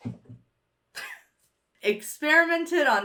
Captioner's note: chuckles